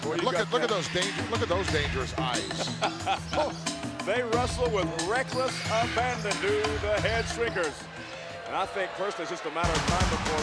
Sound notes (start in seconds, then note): 2.8 laughs